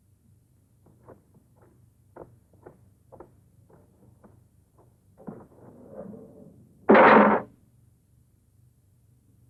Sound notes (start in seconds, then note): 6.9 gate clangs